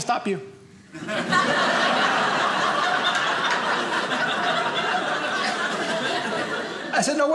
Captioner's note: audience laughing